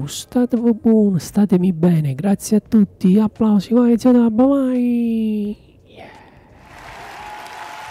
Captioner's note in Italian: Applauso; Ovazione